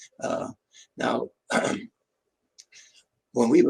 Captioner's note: clears throat